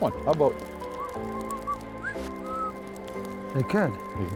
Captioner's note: whistles tune